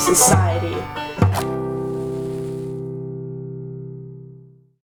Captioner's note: tone sounds; match strike